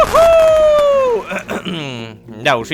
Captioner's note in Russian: Кх.. Кх-кхм!